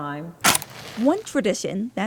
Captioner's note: flame crackles; match strikes